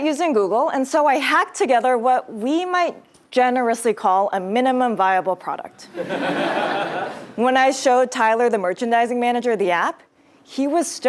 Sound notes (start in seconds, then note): 6.0 laugh